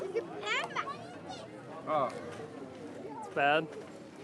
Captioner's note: speaking in foreign language